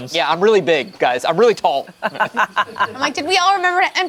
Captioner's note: group laughs